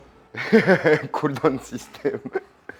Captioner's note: laughs